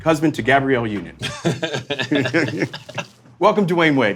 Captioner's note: men laughing